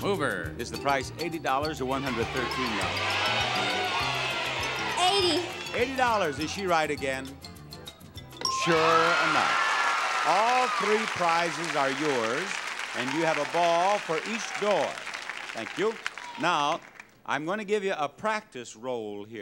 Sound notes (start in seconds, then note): 1.9 audience shouting; 9.2 audience applauding